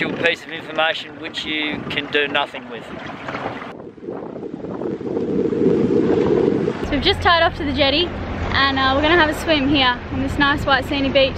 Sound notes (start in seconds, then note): 4.6 wind rustling